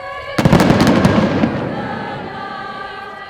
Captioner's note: sound of guns firing